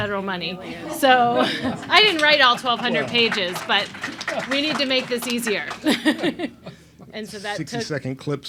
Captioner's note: laughs